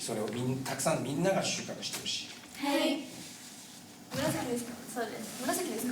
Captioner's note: speaking Japanese